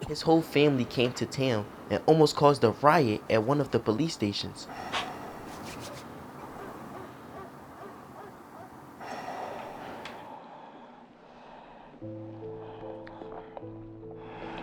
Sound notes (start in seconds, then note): 6.4 dog barking